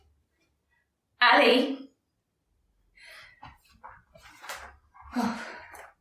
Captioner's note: sighs